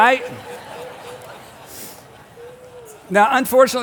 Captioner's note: congregation laughs